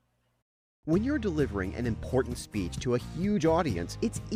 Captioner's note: voiceover